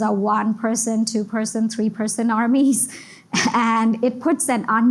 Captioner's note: giggles